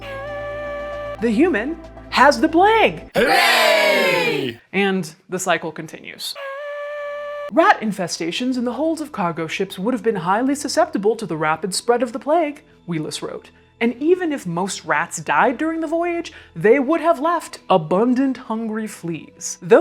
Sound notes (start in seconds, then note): 3.1 crowd